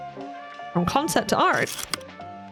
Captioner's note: projector slide click